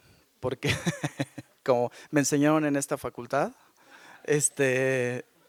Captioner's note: laughs